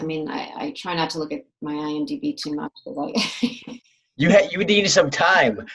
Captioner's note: laughs